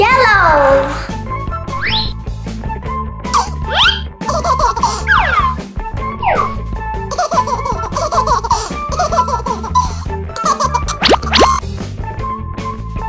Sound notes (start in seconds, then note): 4.6 baby laughing